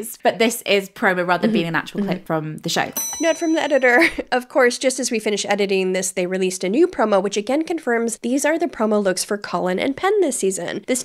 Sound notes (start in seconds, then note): 2.9 bell dings